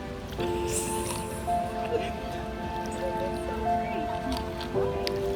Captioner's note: background chatter/laughter